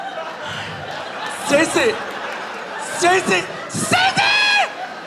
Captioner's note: audience laughing